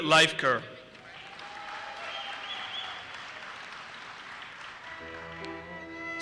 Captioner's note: audience cheers and applauses